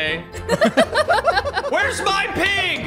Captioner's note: laugh